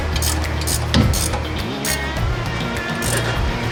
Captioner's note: ratcheting